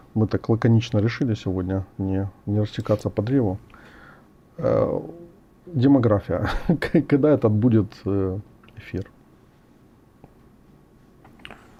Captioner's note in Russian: смех